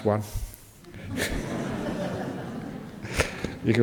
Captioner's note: audience laugh